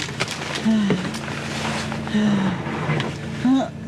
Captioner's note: breathing painfully